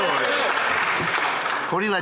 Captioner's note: some Applause